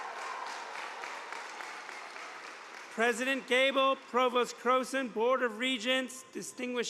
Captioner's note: cheers and applause